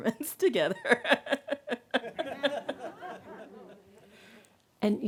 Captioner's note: laughing